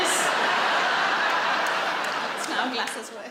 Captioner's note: audience laughs